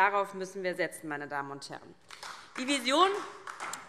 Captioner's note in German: Beifall DIE LINKE